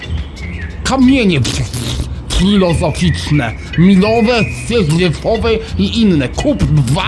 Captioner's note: gobbing